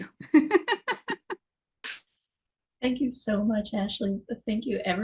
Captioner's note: laughs